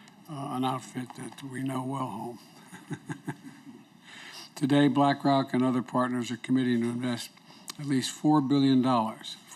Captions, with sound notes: an outfit that we know well at home. (Laughs.) Today, BlackRock and other partners are committing to invest at least $4 billion --